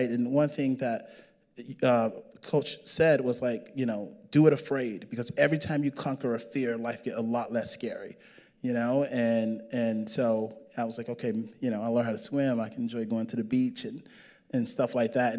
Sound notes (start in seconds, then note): none